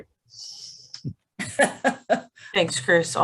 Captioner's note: laughing